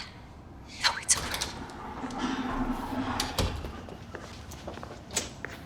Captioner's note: door opens, closes